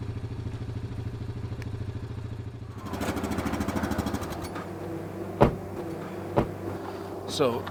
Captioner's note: ATV sound